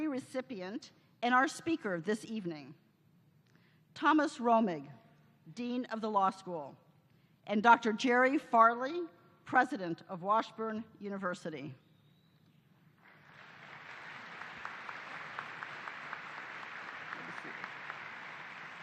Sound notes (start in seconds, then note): 13.0 applause